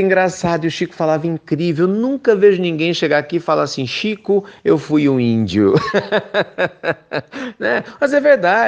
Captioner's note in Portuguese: risos